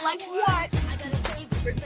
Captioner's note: laughs